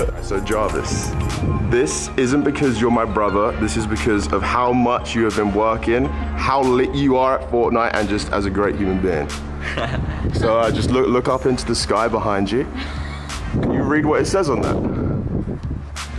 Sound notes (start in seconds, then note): 9.6 Jarvis laughs